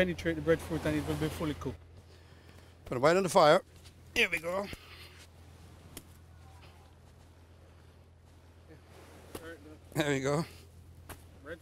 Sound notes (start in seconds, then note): 7.0 chopping